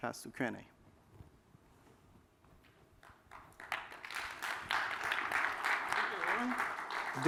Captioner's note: applause